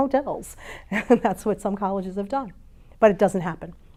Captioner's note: chuckles